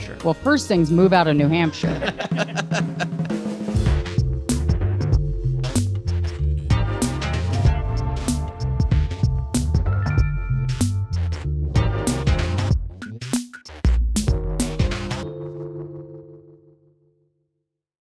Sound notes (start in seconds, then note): 1.8 all laughing; 3.8 gentle music